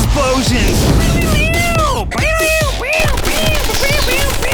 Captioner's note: man imitating gunfire; guns sputtering